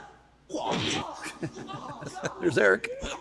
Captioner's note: laughing